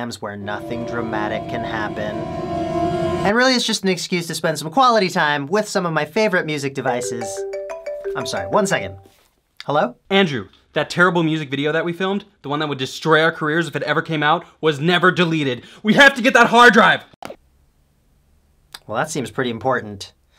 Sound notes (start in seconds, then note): 0.4 suspenseful Music; 6.8 phone Ringing